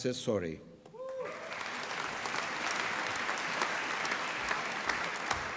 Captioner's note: applause